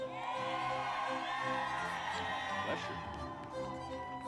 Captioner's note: audience cheers; upbeat music continues